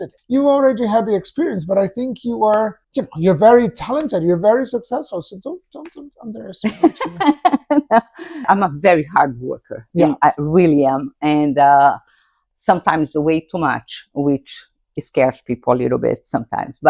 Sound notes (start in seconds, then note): 6.6 laughs